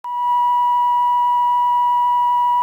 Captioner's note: beeping